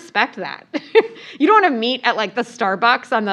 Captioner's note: laugh